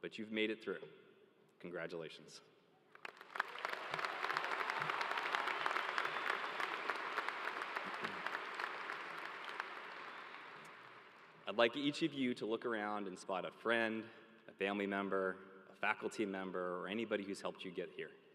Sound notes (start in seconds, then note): 9.8 applause